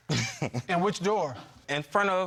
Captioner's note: chuckling